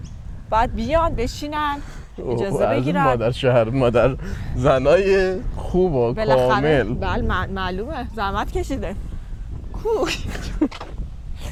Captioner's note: laughs